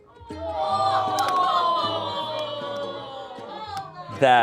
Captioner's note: crew exclaims